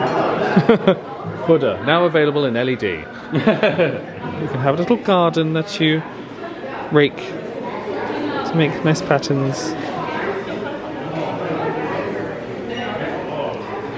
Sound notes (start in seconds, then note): 0.4 chuckles; 3.4 laughs